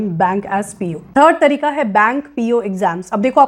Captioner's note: speaking hindi